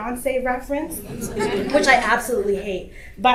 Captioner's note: audience laughter